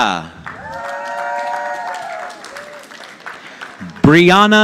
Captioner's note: audience applauding